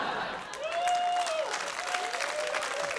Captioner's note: laughter; whooping, applause